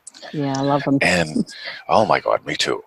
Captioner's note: chuckles